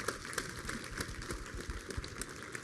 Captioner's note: applause